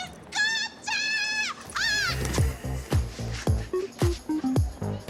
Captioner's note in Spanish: Grito